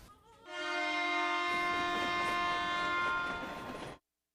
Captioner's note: Sifflet de train